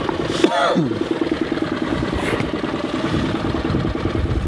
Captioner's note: coughs